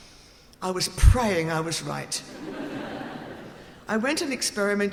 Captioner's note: audience laughing